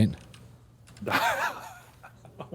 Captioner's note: laughter